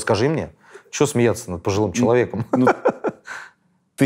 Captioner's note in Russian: смеётся